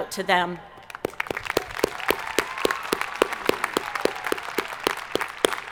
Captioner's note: audience applauding